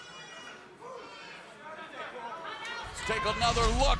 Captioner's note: crowd chatter